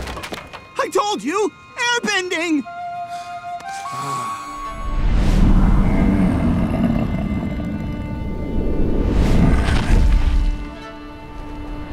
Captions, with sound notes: I told you! Airbending! [sighing]